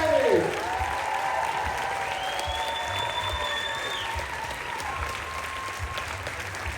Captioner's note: applause